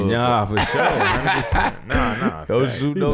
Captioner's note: laughing